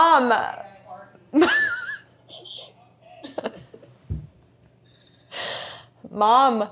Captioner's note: laughs